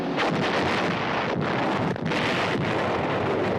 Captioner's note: guns blasting